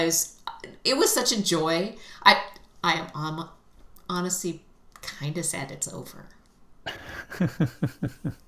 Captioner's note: laughter